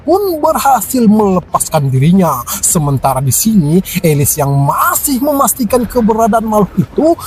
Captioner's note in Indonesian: tertawa